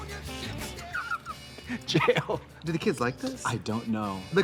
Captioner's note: laughs